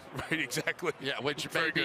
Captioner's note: laughing